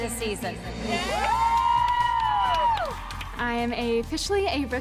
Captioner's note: screams